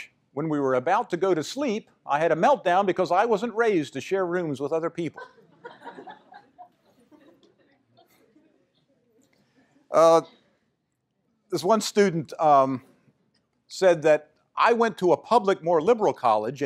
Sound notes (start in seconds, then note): 5.1 laughter